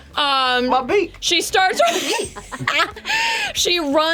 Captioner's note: laughs